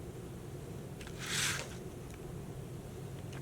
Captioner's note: paper rustling